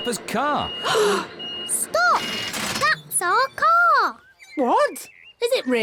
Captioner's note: all gasp